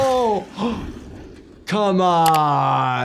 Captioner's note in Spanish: Doctor jadeando